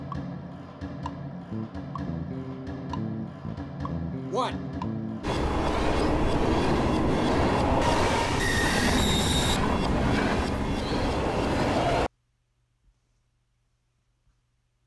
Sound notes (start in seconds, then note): 5.2 time warping; 7.9 train screeching; 9.6 time warping